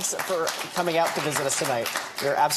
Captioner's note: audience applauding